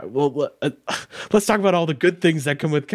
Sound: scoffing

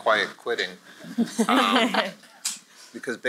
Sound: laughter

